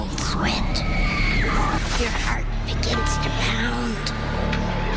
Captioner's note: screaming